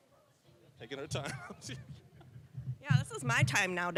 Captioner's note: general chatter; laughing